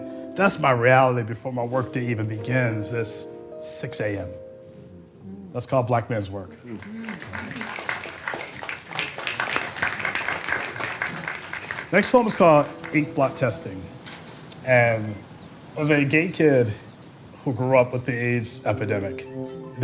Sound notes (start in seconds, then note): 6.6 gentle applause